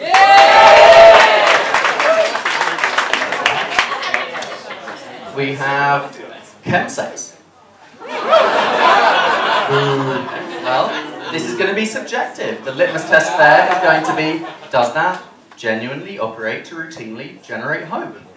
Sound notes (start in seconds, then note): 0.0 cheering; 8.0 laughter. boos; 17.6 laughter